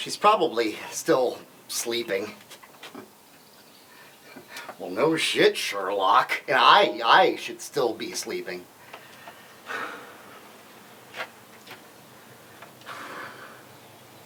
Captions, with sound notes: Well, she's probably still sleeping. Well, no shit Sherlock. I should be sleeping. (Lucky sighs) (birds chirping)